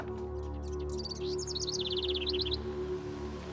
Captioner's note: birds chirping